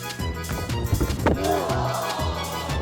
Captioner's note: playful music; body thudding; onlookers groaning; man moaning; playful music